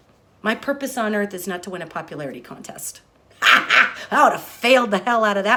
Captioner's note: laughs